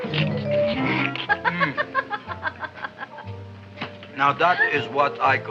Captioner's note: laughs